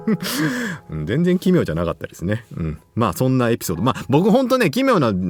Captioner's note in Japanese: 笑い